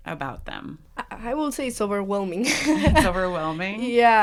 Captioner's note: laughs